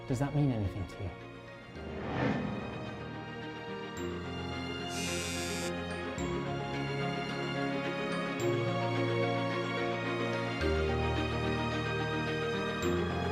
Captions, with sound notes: - Does that mean anything to you? (cellphone ringing) (bright music)